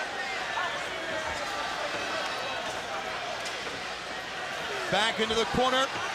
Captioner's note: crowd chatter